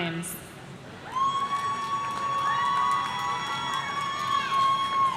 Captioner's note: audience cheering